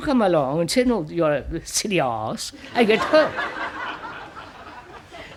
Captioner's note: laughter